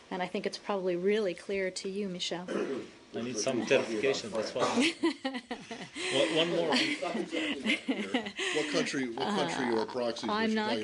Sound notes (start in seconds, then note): 7.6 laughter